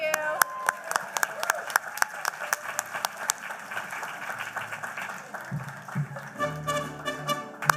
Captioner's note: applause; spanish music